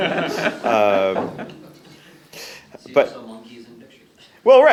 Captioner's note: audience laughs